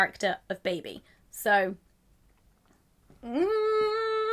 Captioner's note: hums